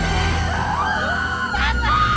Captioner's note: all screaming